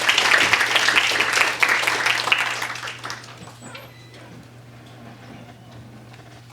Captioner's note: applause